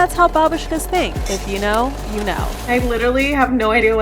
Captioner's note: glasses clinking